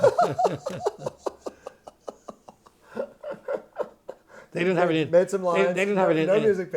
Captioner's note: laughter